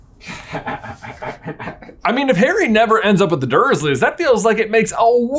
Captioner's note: laughs